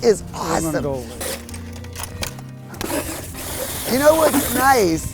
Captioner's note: hole digger drilling